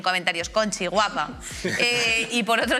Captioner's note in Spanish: todos ríen